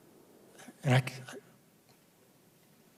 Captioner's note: voice cracking